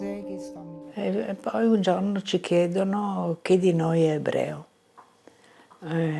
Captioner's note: speaking in foreign language